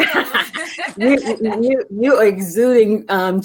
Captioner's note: ladies laughing